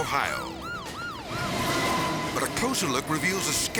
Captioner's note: siren wailing; train rustling